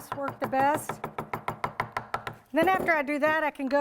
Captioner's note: tapping